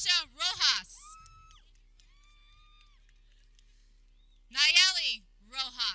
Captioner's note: people cheering